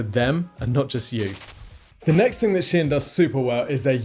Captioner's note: static fizzles